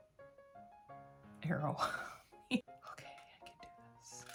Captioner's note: laughter